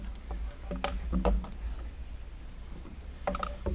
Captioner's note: light clattering